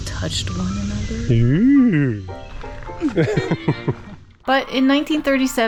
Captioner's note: laughs